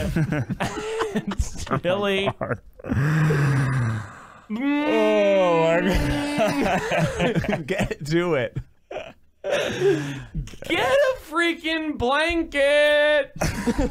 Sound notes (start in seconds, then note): 0.0 laughing